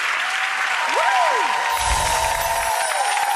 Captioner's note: applause